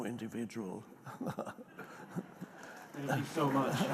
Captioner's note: Eckhart chuckles